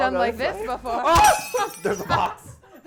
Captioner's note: glass shutters